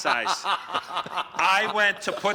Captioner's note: laughter